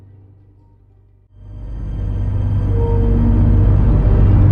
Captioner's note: clattering